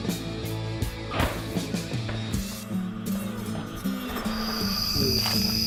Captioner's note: arrow whooshing